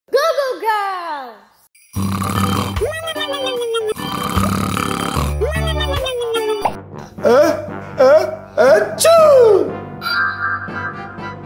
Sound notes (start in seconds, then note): 2.4 snoring